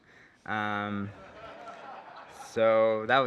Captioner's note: laughter